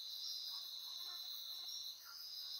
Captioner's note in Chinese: 蚊子的聲音